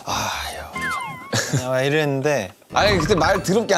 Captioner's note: haha